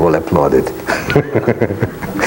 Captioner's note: laughs gently